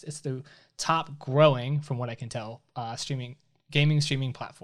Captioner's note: none